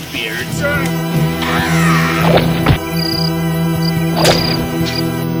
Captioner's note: intense organ music; screams; axe hacking; babbles angrily